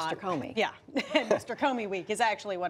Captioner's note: laughter